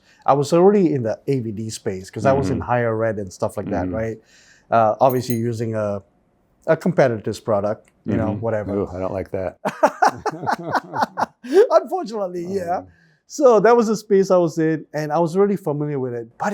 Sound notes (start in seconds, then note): 9.6 both laughing